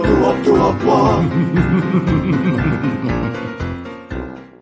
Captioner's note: maniacal laughter